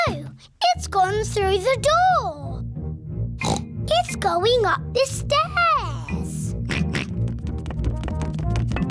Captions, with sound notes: Oh! It's gone through the door! (SNORTS) It's going up the stairs! (GEORGE OINKS)